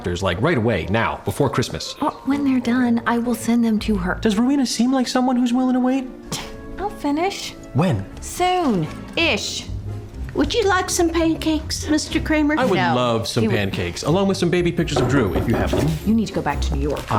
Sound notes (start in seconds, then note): 6.1 scoffs; 14.9 knocking on door